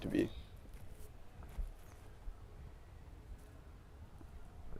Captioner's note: birds chirping